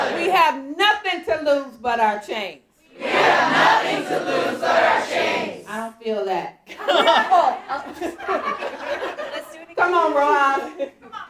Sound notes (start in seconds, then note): 6.8 audience laughing